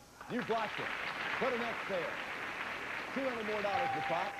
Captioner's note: audience applauding